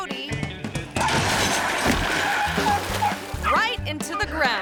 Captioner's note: table crashes; dog barks